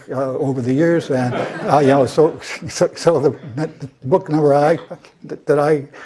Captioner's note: laugh